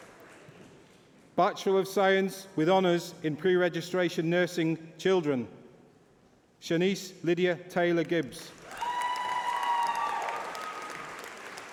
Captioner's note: applause